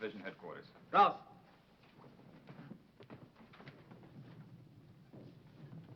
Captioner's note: speaking foreign language